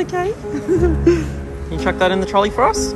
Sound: giggles

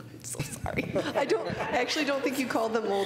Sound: laughter

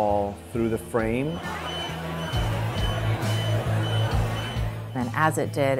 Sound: beeping; commotion

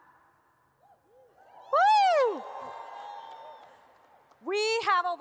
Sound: audience cheers

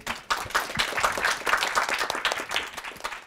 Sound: clapping

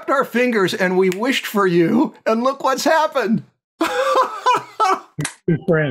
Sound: laughter

